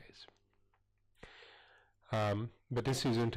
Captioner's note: pause